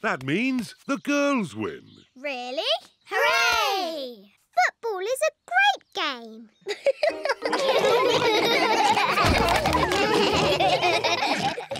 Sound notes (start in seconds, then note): 6.6 all laugh; 6.6 giggles